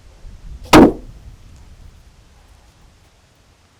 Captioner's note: slab thuds